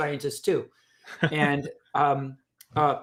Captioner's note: chuckles